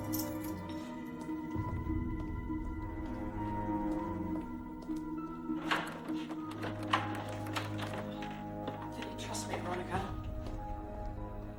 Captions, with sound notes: (eerie music continues) (door knob rattles) - Didn't trust me, Veronica?